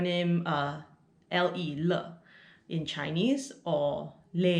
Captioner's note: Mandarin